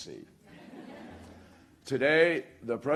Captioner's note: laughter